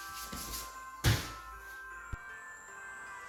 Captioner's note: wood bangs; christmas music playing